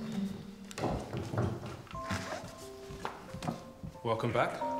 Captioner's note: footsteps plodding